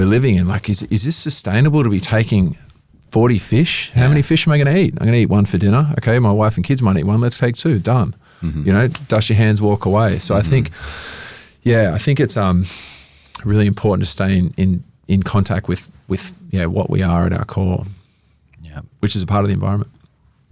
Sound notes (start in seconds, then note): 8.8 hands clap